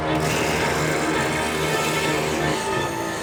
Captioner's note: growling